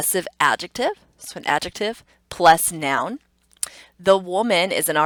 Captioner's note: tongue clicks